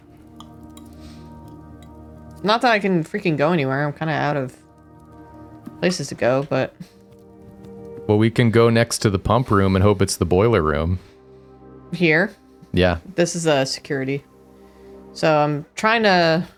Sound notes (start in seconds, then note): none